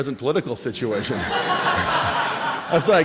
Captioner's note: laughter